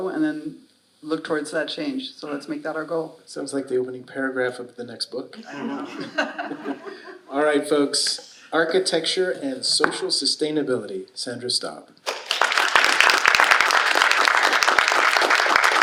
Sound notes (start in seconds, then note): 5.4 audience laughing; 12.0 audience applauds